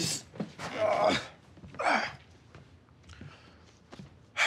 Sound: Rufus grunts

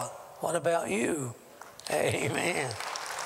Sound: applause

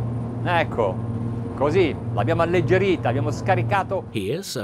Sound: speaking in foreign language

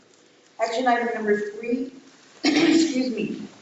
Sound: clears throat

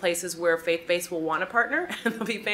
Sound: laughs

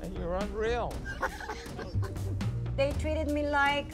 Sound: laughs

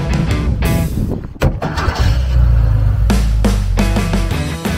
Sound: roar of the engine

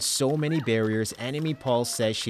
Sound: applause

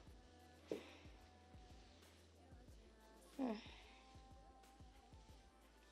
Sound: moans softly

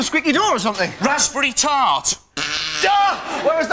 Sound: farts again

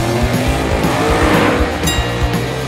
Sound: bell dinging

